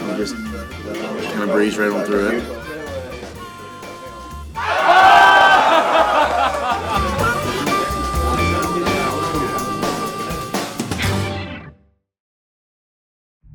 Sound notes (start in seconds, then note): 4.7 laughing; 4.7 yelling